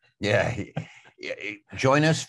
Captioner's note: chuckles